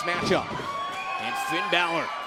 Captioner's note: crowd cheering